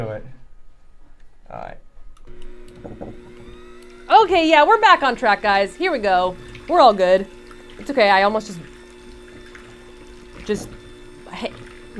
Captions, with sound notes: Let's do it. All right. (mixer whirring) - Okay, yeah. We're back on track guys, here we go. We're all good. It's okay. I almost just, just mixed my face.